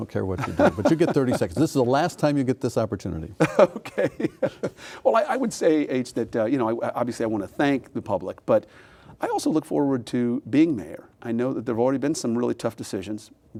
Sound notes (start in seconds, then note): 0.4 laughing